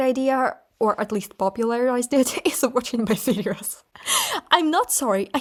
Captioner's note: laughing